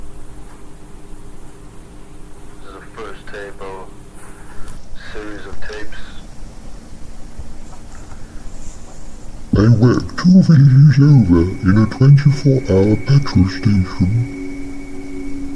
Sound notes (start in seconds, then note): 2.8 tape sounds/voices